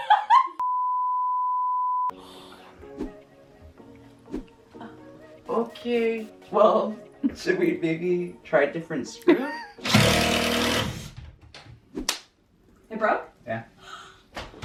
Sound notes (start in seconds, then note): 0.3 standby beeps; 9.8 drill whirs